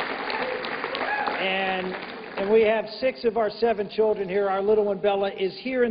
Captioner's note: applause